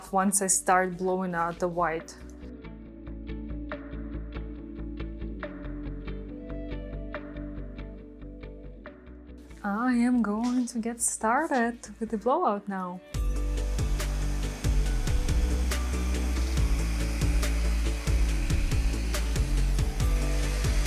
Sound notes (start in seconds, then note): 2.4 bright music; 13.2 blower hissing; 13.7 bright music